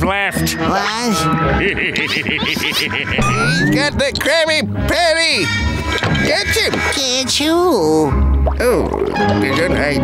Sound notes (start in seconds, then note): 1.5 laughing